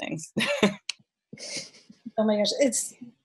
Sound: laughs

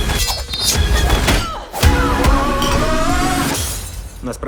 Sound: women grunting

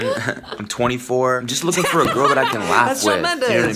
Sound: laughs

